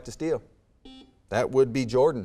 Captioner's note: buzzer beeps